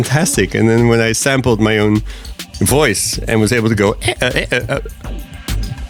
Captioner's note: mimics robotic noises